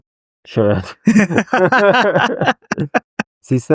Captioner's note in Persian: خنده